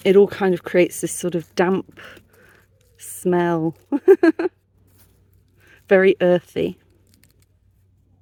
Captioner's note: laughing